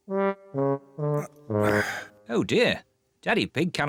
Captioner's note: sighs